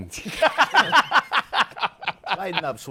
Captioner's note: laughs